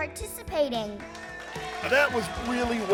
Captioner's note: crowd cheers